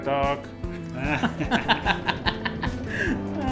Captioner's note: laughs